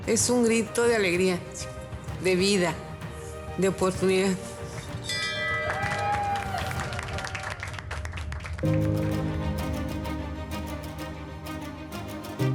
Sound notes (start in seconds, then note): 0.2 woman speaking in a foreign language; 4.8 hospital staff cheering and clapping; 5.0 bell clanging; 8.6 soaring orchestral music